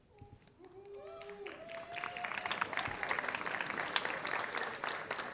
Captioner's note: audience applauding